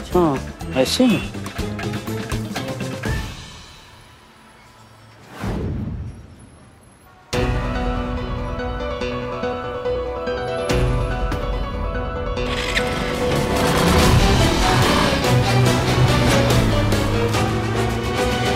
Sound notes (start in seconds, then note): 7.4 tense music; 12.4 bike revving